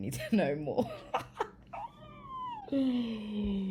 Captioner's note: laughs